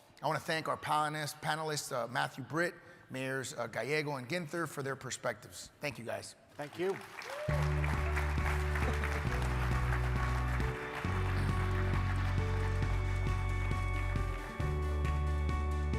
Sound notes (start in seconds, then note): 6.6 crowd applauding; 7.4 uplifting music